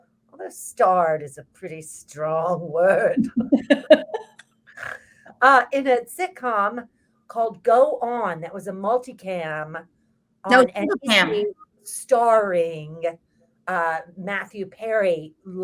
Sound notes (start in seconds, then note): 3.1 both laughs